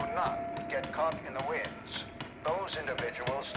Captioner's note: vigorous hammering